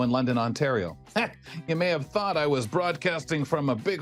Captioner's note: laughs